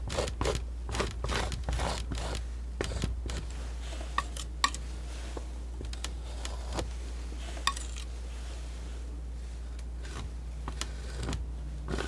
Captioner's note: scratching